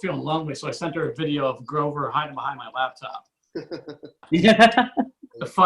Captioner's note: audience Laughs